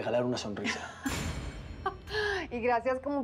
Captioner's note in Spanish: ella ríe